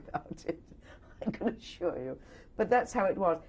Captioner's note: laughs